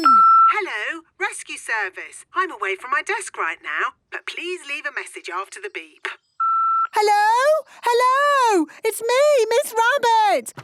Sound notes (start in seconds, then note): 0.1 answering machine; 6.4 beep